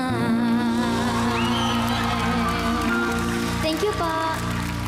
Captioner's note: audience cheering, applauding